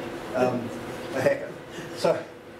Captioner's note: laughs